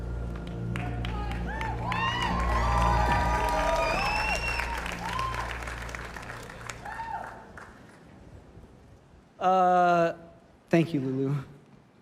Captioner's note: cheers and applause